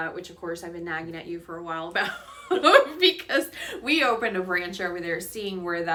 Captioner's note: laugh